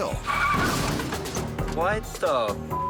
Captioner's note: tires screeching